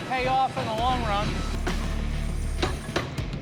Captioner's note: pounding